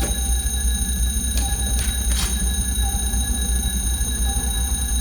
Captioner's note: phone ringing continuously